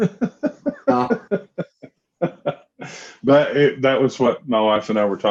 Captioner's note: laughs